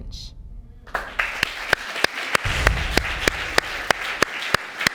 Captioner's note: audience applauding